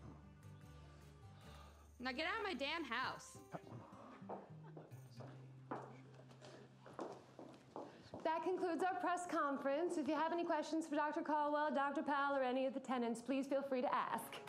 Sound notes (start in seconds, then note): none